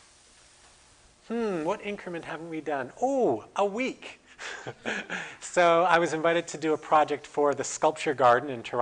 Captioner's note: laughter